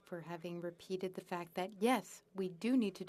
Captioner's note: speaking French